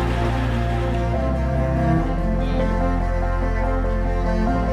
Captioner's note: applause